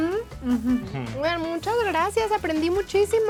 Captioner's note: speaking Spanish